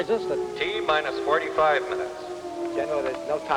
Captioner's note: man on PA